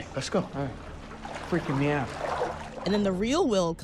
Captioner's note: water splashing